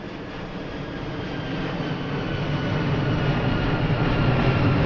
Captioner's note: jet engine revving